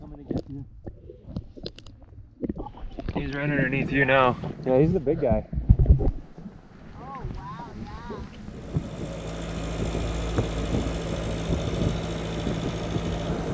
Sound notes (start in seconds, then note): 8.1 boat engine hums